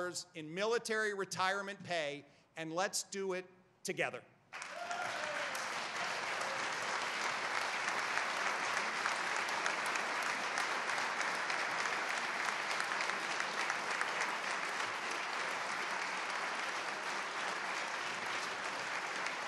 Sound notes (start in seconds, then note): 8.6 cheers and applause